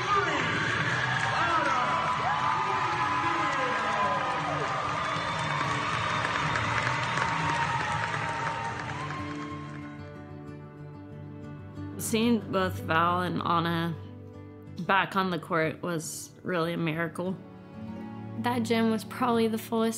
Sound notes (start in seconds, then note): 2.8 people cheering; 9.9 inspirational music